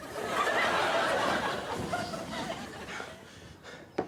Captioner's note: audience laughing